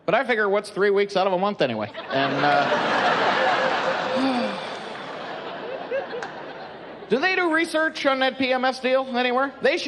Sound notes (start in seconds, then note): 1.9 laughing; 4.1 sigh